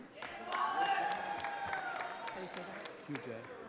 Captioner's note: audience applauding